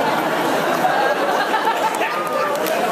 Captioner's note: laughs